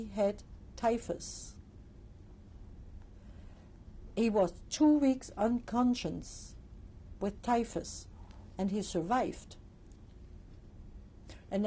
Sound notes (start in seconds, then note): 1.5 pauses for 3 seconds